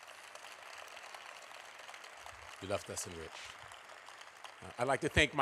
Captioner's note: applause